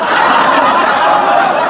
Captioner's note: laughs